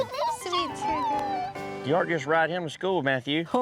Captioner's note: excitedly squeals